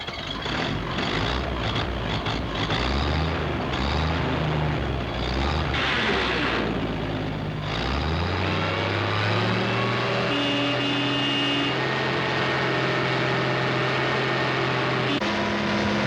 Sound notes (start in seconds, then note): 0.0 engine cranking; 0.2 engine purring; 7.9 engine revving; 9.6 horn honking